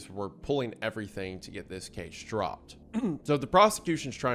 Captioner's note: clears throat